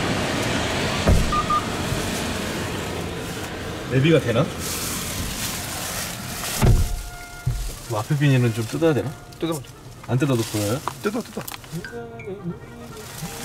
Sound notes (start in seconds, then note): 5.2 with a rustle